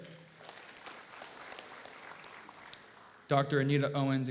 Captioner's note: audience applauds